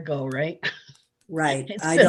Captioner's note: chuckling